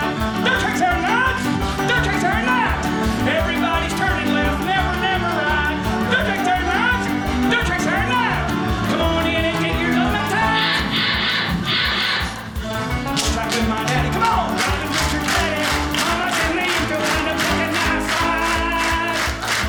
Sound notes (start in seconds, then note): 10.5 drill zipping